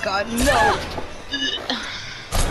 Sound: gags

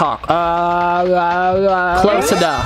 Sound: talking gibberish

